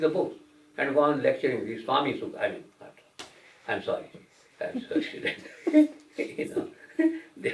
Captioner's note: laughter